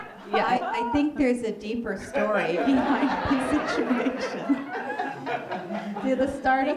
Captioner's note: laughter; laughter